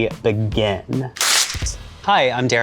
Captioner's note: paper tearing